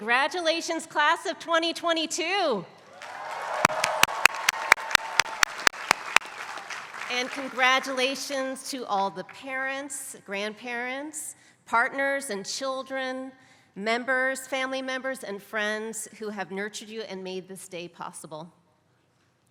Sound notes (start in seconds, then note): 2.8 applause